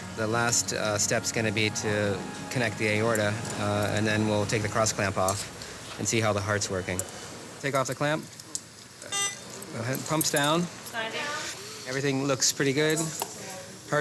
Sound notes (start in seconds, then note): 9.1 machine beeps